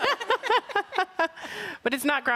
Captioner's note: group laughing